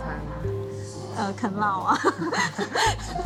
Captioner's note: laughs